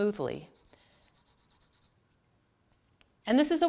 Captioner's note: pencil scribbling